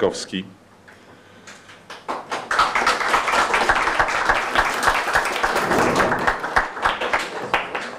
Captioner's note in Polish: oklaski